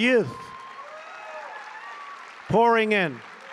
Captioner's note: applause